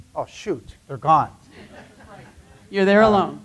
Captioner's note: laughter